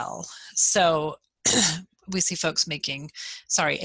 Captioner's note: coughs